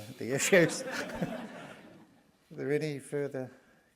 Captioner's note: laughter